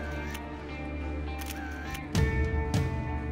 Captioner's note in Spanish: clic de la cámara